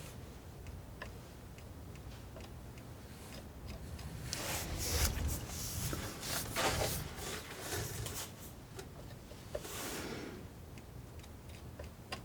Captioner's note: scratching